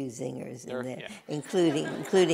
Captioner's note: laughter